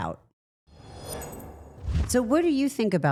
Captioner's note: air whooshing